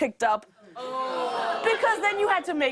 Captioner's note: audience groans